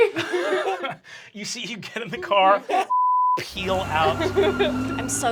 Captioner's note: beep